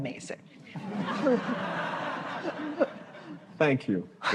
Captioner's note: laughter